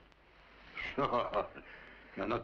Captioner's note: chuckles